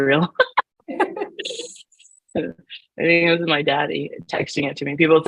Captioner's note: laughs